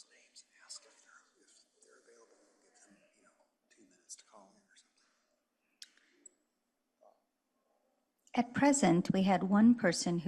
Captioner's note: no audible response